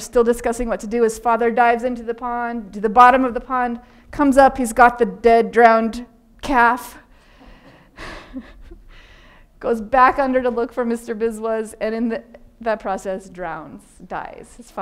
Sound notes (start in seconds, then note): 7.6 audience laughing; 7.9 laughing